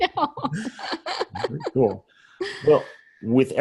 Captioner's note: laughs